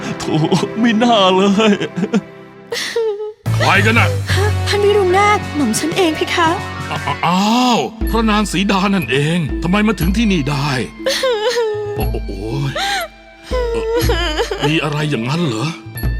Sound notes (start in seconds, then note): 2.5 sniff; 11.0 cry